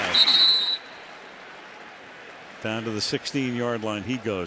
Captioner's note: whistle blows